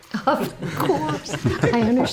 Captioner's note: everyone giggling